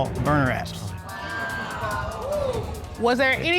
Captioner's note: audience exclaiming